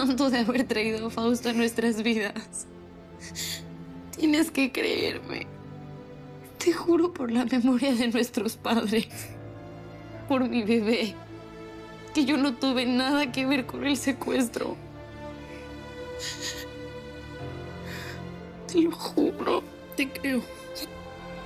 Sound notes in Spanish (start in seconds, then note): 16.2 Sollozos